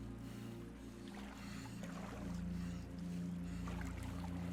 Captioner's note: water splashing